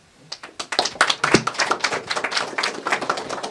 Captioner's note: applause